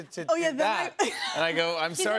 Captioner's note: laughs